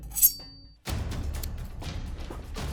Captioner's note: snip, Snip